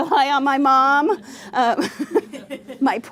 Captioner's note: laughter